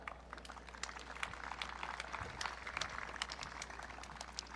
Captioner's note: audience cheering